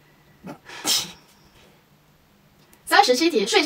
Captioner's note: quietly sigh